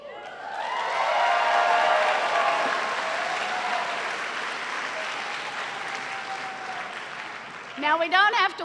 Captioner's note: cheers and applause